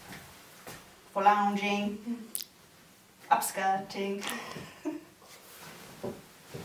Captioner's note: laughs